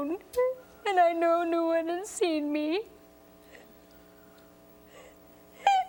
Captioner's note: crying